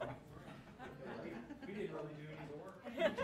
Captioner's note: laughing